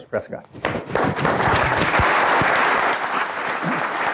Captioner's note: applause